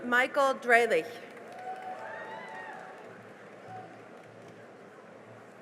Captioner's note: cheering and applause